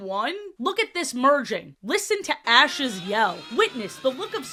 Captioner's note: ash yelling but at a lowered volume